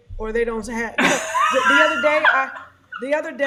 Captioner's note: laughs